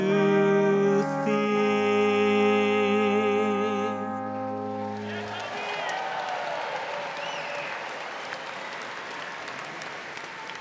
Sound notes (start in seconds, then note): 4.8 crowd cheering; 4.8 crowd clapping